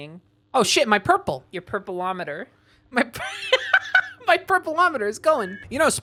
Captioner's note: laughing